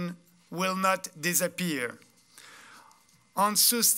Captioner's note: speaking french